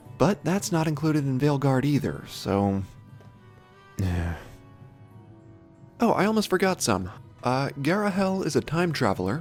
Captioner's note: sigh